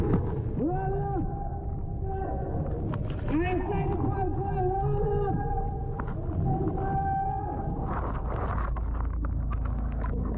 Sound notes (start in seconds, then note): 3.5 divers screaming in foreign language